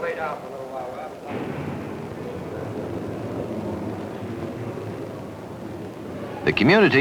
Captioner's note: courtroom indiscriminate noise